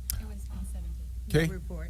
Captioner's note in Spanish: hablar en voz baja